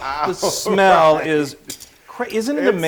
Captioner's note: laugh